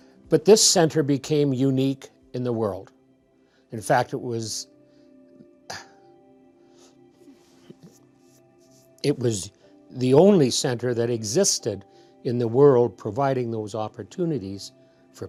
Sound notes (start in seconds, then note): 5.7 sighs